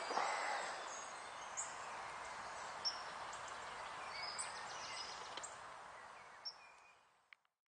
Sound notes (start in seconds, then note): 3.1 A chickadee chirps